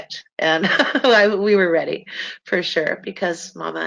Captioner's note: laughs